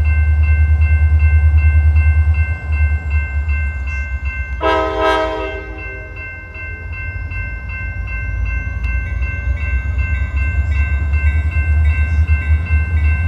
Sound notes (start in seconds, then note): 4.6 train horn blows; 9.0 train bell ringing